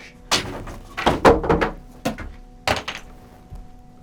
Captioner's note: equipment rattles